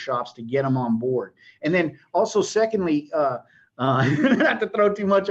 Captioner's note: laughs